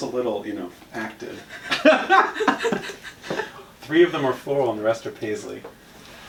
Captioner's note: laughing